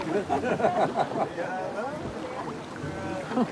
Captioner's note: laughing; chuckling